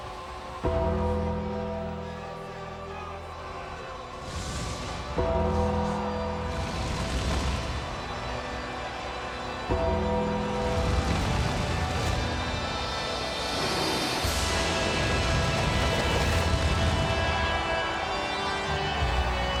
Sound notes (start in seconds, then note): 4.1 flames roaring; 10.6 flames roaring; 14.9 flames roaring